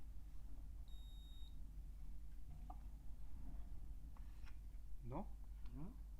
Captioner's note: card terminal error sound